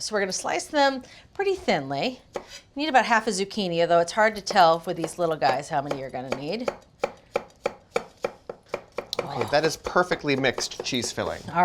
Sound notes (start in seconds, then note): 6.9 knife chopping